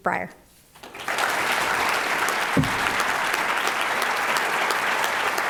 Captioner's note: applause